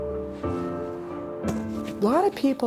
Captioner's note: winter wind; snowboard hits snow